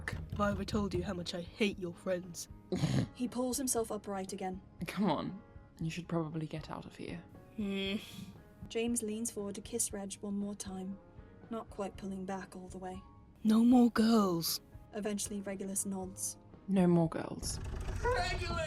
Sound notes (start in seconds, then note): 2.5 Regulus snorts; 7.6 reluctant noise; 17.5 fast pounds